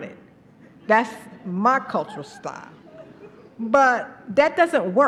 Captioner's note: laughter